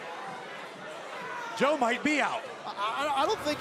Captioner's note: crowd chatter